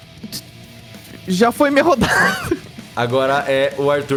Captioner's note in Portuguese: imitando Joui; risos